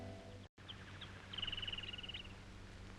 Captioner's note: birds chirping